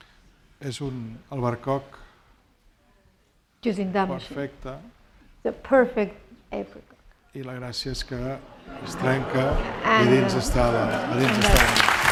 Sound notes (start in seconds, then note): 1.4 speaking spanish; 8.0 speaking spanish; 8.4 laughter